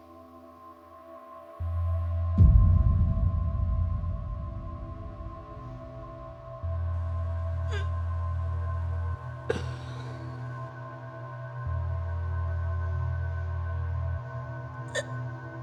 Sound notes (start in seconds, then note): 0.2 soft ominous music; 9.5 Lindsey gagging